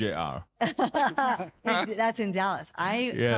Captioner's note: laughing